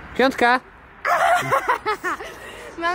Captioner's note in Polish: śmiech